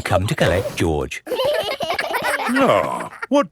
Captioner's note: giggling